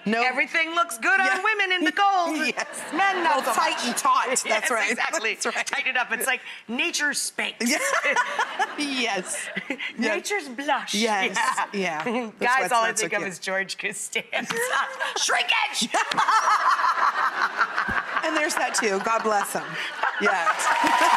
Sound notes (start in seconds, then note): 15.7 laughing; 20.2 cheering and clapping